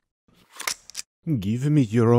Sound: gun clicking

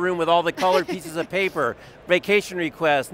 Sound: laughs

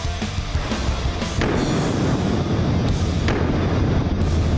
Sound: gunshot sound

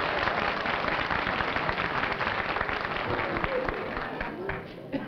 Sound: applause

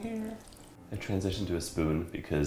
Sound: milk trickles

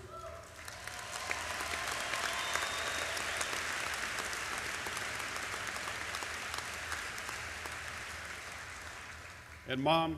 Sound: applause

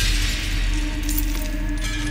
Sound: glass shatter

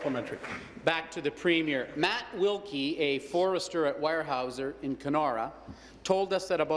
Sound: applause

